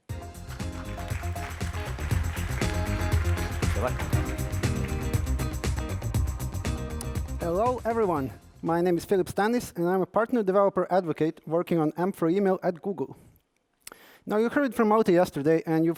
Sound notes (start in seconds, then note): 0.2 applause